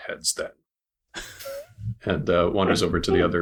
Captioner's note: laughter